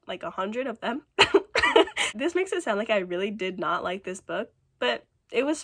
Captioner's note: laughs